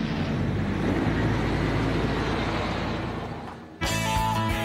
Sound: car engine revving

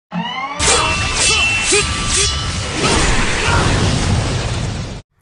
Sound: sirens and swords clanging

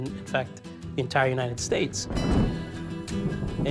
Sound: thunder rumbling

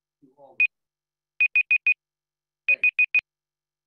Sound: timer beeping

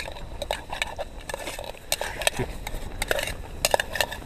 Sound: pot clattering

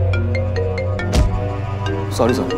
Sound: thuds

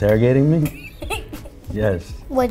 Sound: laughs

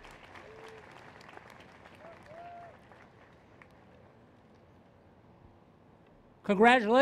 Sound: applause

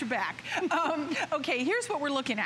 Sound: laughter

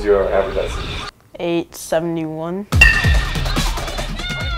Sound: bat cracks

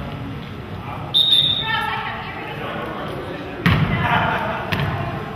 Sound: whistle blows

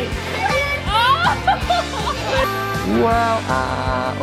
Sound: laughing

